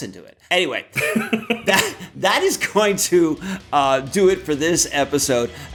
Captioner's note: laughs